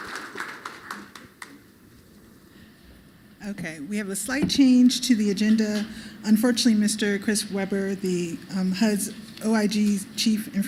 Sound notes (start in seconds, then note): 0.0 applause